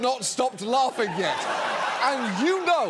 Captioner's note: studio audience laughing